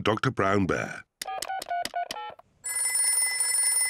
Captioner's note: beeping; phone rings